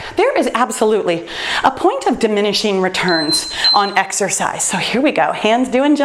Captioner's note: timer beeps